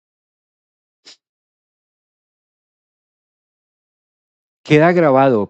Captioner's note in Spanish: resoplido